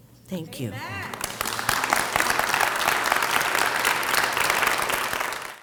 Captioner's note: crowd clapping